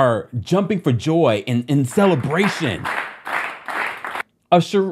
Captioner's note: people clapping rhythmically